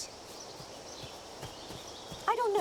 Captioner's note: footsteps